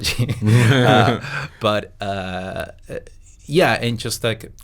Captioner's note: they laugh